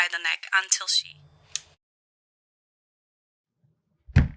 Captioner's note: click; loud knocking at the door